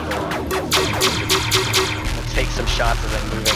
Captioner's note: in-game ship shooting; in-game ships exploding